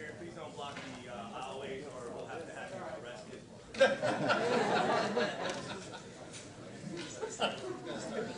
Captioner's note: laughter